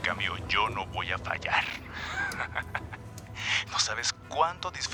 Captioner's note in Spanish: Risas